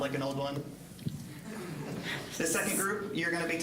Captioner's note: audience chuckling